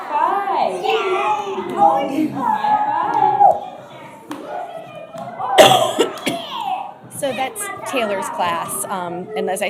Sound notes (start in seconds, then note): 2.8 indistinct chatter